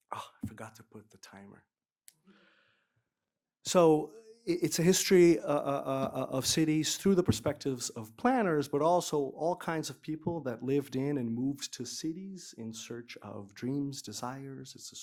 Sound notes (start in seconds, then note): none